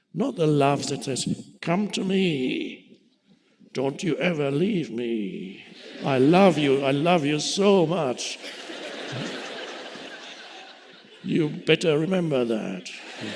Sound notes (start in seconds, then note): 9.0 audience laughing